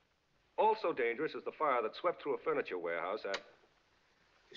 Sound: <i>Radio Clicks</i> Off

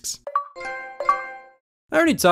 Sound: Xbox and PlayStation sounds

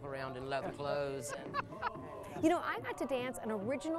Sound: laughter

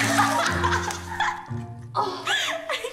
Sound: Josie laughing

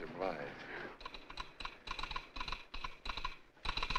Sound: telegraph clicking

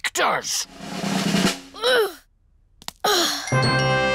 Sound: drum roll; groans

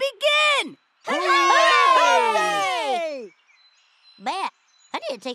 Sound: group cheers

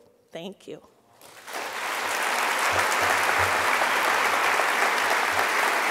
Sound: audience applause

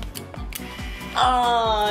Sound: camera shutter clicks

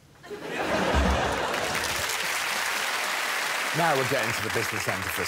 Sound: applause

